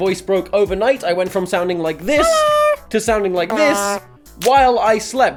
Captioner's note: high pitched hello